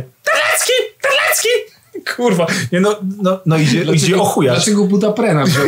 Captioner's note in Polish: Głosem papugi